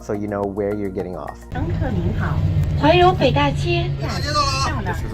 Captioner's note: chinese announcement